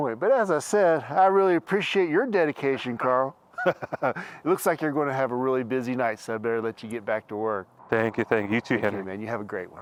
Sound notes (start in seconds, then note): 3.5 Henry laughing